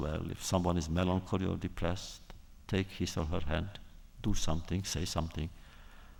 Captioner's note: none